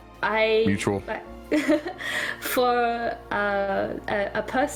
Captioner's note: giggle